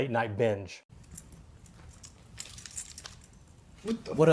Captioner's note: keys rattle